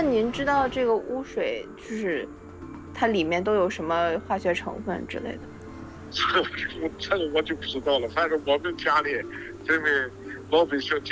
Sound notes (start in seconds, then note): 0.0 gentle music; 0.2 speaking in foreign language; 6.3 speaking in foreign language